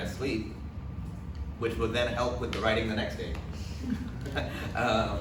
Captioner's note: laughs